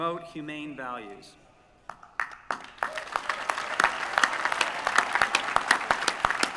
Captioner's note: applause